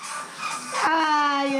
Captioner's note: drinking